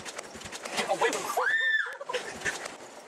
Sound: Screech

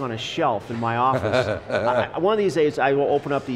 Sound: laughing

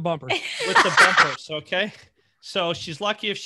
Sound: laughing

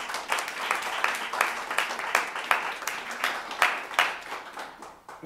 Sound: applause

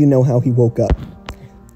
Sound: miscellaneous bad mic noise

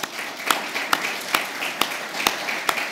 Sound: applause

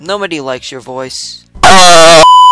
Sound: beep boop

